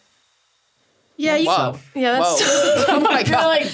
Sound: laughs

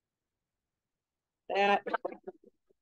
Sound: audio warbles

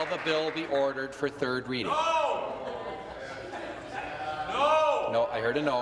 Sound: applause

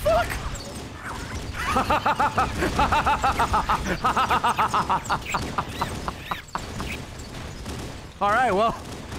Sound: laughs

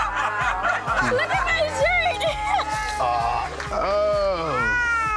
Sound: laughs

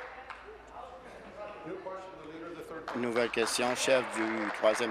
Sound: applause; continued applause

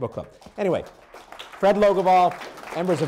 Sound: applause

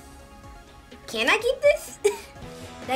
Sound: chuckles

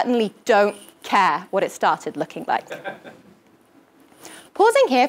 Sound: laugh

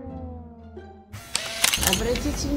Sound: camera click

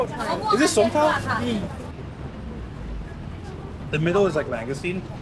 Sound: speaking foreign language

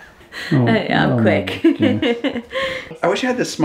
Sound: laughing; laughs

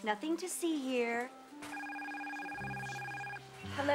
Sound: telephone ringing

